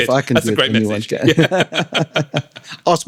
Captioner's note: laughing